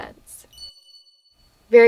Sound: light twinkle noise

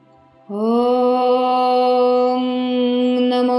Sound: chanting

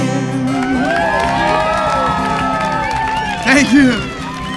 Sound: applause

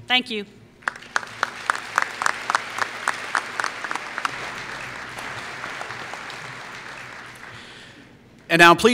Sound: applause

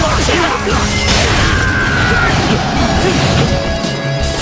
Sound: KO Scream

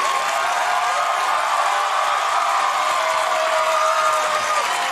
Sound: audience woos; audience continues to cheer

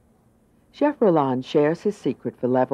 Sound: voiceover

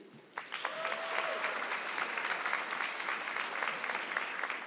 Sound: audience clapping

